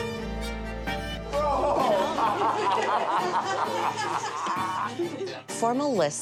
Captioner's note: soft somber music; men laughing